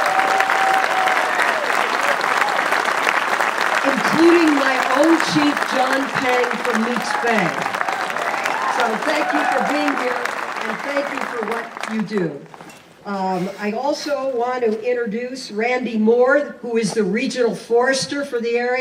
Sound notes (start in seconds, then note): 4.3 applause